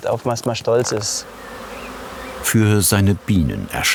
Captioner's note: buzzing, birdsong